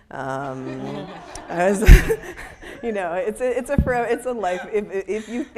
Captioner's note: audience laughing